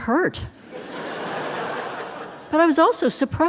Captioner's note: audience laughing